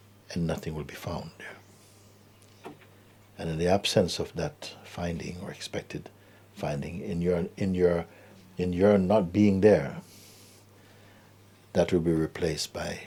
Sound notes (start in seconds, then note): none